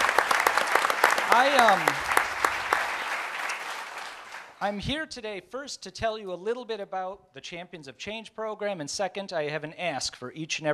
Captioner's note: applause